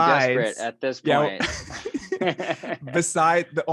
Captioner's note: laughs